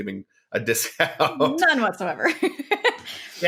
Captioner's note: both laughing